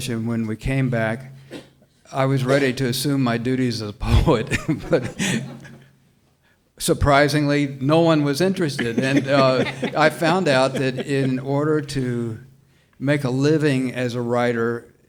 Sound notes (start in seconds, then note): 8.6 panelists laughing